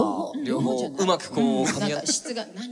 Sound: chuckling

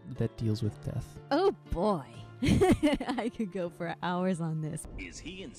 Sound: laughing

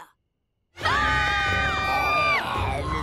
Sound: screaming

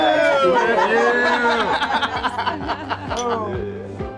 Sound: everyone laughing

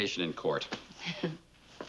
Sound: Ann chuckles

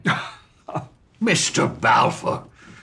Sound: laughter

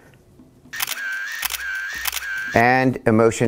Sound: camera clicking

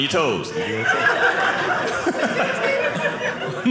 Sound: audience laughing

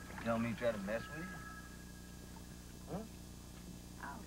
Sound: telephone rings

